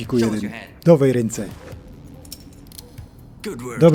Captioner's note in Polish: klang ôd zapinanych kajdanek